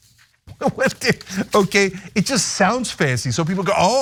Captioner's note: laugh